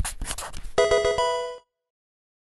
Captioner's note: marker scratching; electronic video game chime